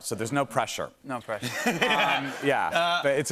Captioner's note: laughter